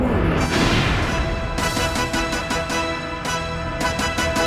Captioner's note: explosion booming